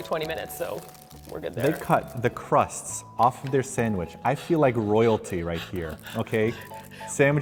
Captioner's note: laughing sounds